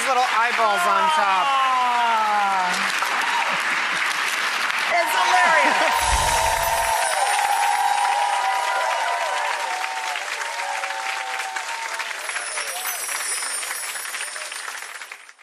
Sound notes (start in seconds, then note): 5.9 chime flourish; 6.0 audience applause